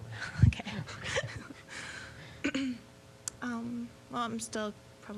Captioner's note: both laughing